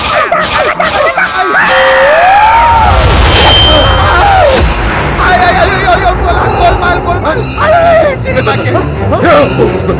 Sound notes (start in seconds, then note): 6.9 Speaks gibberish